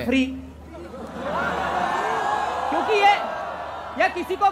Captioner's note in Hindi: चियरिंग